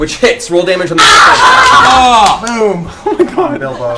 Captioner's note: cheering